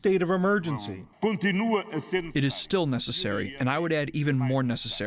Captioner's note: through translator